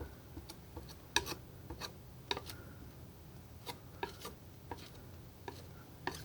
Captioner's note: scratching